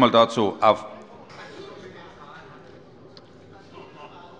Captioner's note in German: Zurufe von der SPD